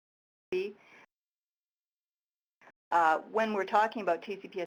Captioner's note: audio cuts out